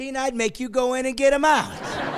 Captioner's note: laughing